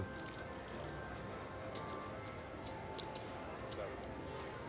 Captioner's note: soft clacking